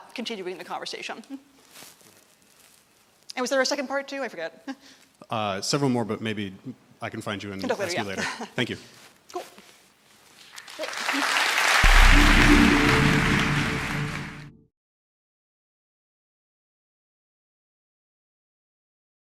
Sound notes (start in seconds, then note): 10.5 applause